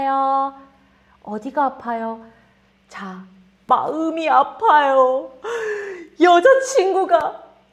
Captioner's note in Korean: 헉 소리